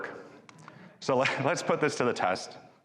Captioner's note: audience chuckling; chuckles